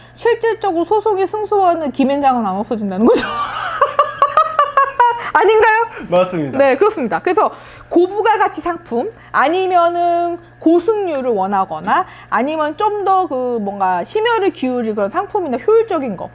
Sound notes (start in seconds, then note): 3.1 laughs